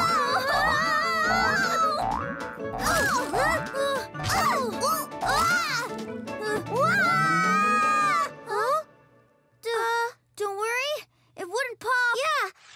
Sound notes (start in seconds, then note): 2.5 both grunting; 5.2 both yelling